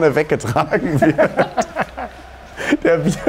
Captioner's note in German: Lachen